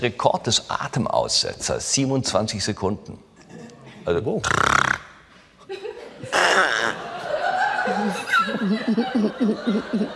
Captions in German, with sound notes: Bei mir ist der Rekord des Atemaussetzers 27 Sekunden. Wow. (Harald Schmidt imitiert Schnarchen.) (Kichern aus dem Publikum)